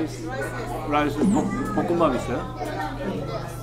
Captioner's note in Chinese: 情急之下冒出韓文